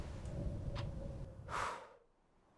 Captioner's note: Ellie blows; wind whistling